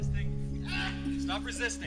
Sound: man screaming

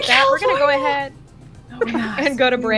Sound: laughter

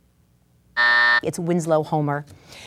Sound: buzz

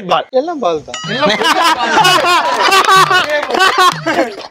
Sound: laughs

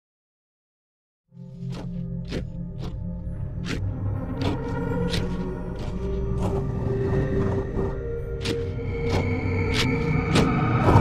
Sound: sound of demon temple

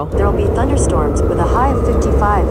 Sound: robotic Voice

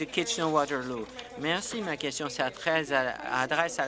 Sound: applause

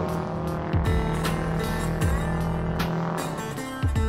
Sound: engine revving

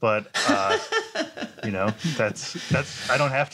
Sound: laughter

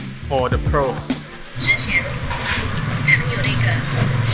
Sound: Mandarin

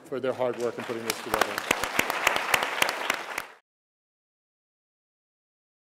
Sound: applause

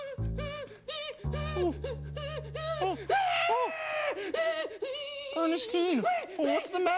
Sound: crying

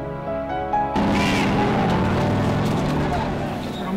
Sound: shouting

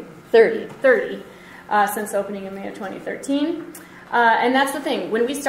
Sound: voiceover

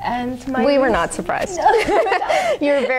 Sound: both women laugh

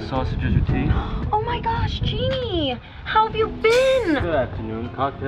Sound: gasps

